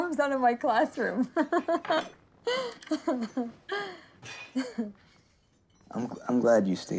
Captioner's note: laughing